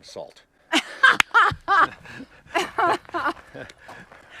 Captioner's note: laughing